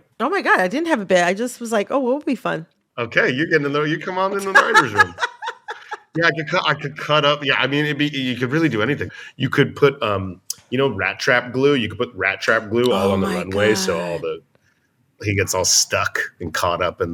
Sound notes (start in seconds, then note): 4.4 laughter